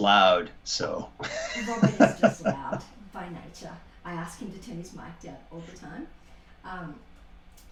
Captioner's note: laughter